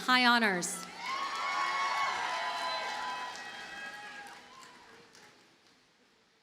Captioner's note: audience cheers and applauds